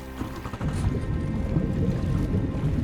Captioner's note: engine revving; water warbling